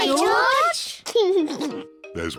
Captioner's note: laughs